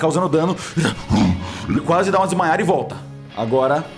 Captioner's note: roar